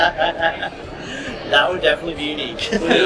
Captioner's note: laughter